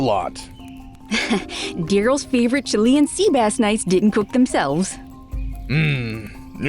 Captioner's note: chuckles